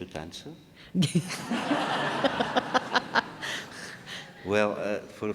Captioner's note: audience laughing